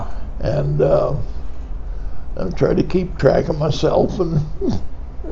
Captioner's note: chuckles